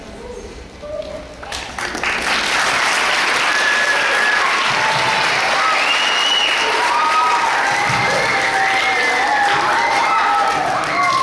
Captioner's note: clapping